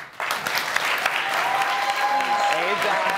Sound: audience clapping

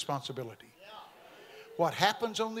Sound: congregation amens

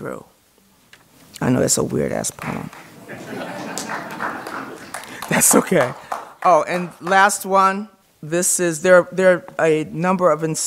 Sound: laughter

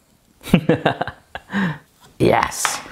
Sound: laughing

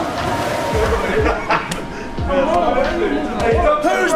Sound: laughter

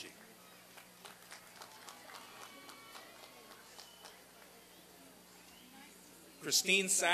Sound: applause and cheering

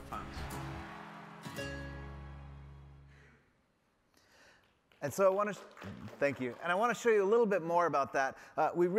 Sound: applause

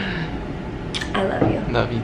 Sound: smooch

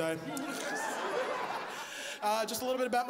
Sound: laughs

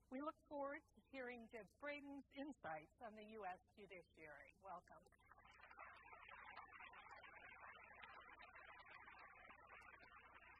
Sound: applause

